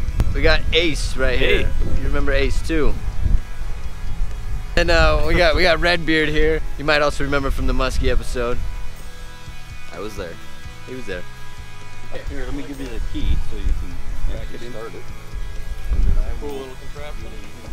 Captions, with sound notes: We got Ace right here. Hey! You remember Ace too. We got—we got Redbeard here. You might also remember from the musky episode. I was there. He was there. [chattering]